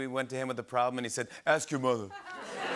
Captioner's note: changes accent; laughter and applause